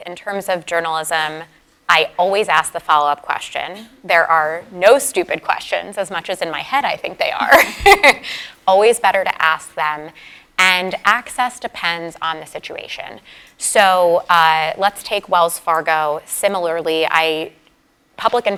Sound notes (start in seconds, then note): 7.4 laugh